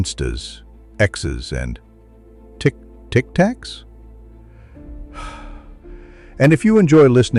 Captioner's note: sighs